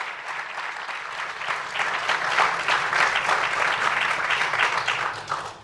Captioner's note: applause